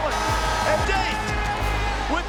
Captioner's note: alarm buzzing